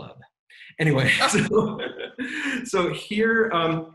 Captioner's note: laughing